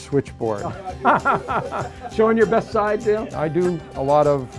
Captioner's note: laughs